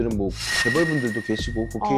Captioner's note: confidential sound effect